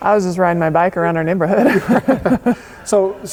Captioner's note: laughing